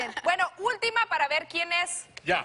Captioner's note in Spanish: Ríe